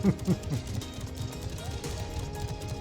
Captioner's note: laughs